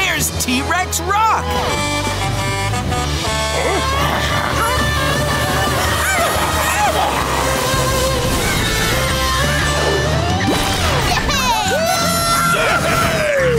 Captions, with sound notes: And look, there's T-Rex Rock! Babies, you almost home! [squeaking] -Yeah! -Woo hoo hoo!